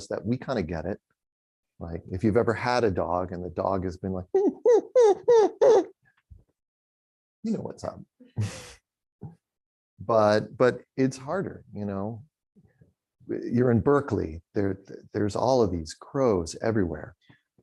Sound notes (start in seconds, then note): 4.3 imitating dog whining